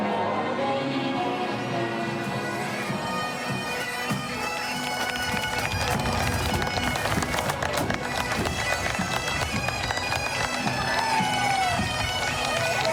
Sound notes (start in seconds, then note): 2.8 bagpipe music; 10.1 cheering